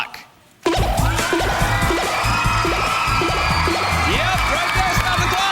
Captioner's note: cheers and applause